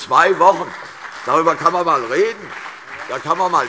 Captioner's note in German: Beifall CDU und BÜNDNIS 90/DIE GRÜNEN